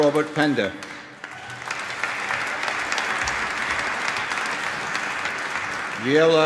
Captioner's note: applause